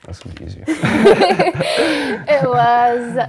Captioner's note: laughs